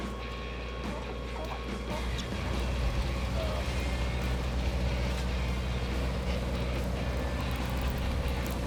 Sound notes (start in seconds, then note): 4.2 water splashing